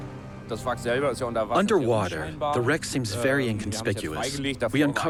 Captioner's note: in German